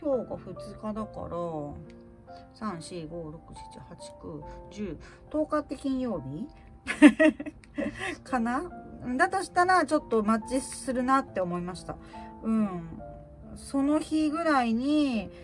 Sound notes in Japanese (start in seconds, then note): 6.9 笑い